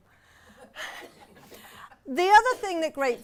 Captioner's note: audience laughs